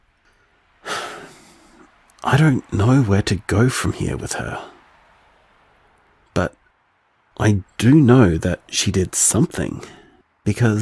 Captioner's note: sigh